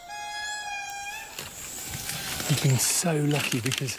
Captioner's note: lemur cry